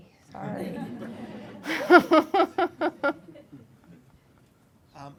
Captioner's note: laughing